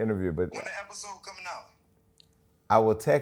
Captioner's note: on phone